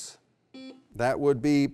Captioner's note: beep